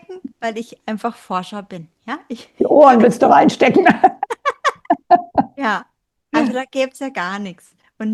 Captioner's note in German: gelächter